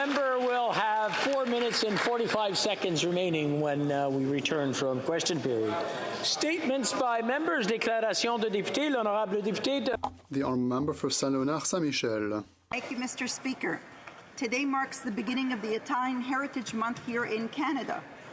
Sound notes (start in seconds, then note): 12.5 speaking French